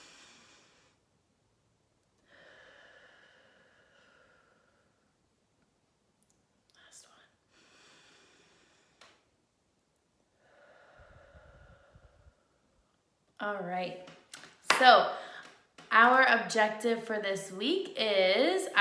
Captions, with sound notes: (deep breath inhaling) (deep breath exhaling) Last one. (deep breath inhaling) (deep breath exhaling) All right. So our objective for this week is,